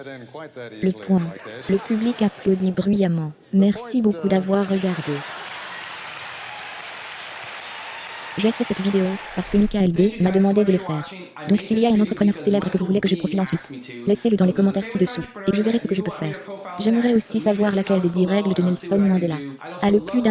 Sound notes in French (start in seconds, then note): 4.6 Le public applaudit bruyamment